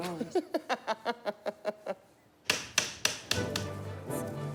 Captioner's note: Tommy laughs; expectant music